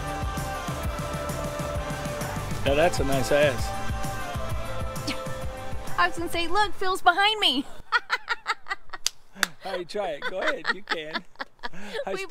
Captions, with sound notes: Now that's a nice ass. - I was going to say, "Look, Phil's behind me." (woman laughing) - All right, try it. Go ahead. You can.